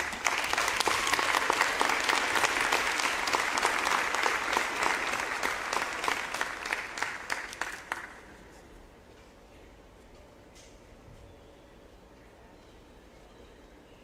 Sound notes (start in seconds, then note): 3.2 applause